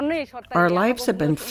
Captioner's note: through translator